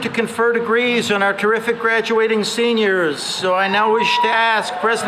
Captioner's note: cheering